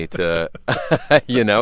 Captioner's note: laughter